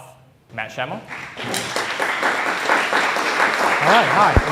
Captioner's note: applause